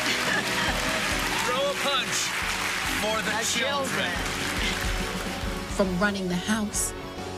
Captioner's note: cheering and applauding